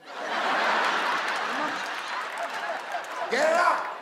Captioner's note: audience laughs